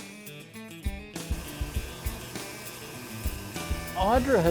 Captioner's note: sander humming